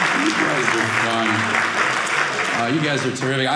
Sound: audience applauding

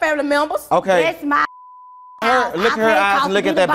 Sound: beep

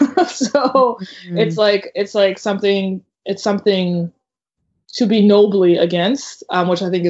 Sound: laughs

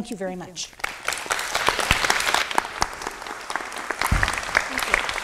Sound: audience applauding

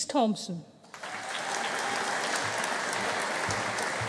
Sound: audience applauding

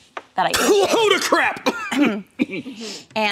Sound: coughing

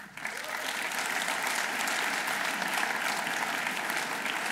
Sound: audience applauding

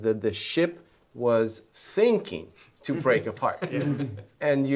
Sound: all chuckling

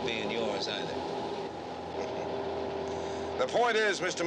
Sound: chuckles

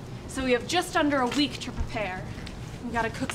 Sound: none

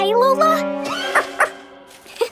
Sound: barking

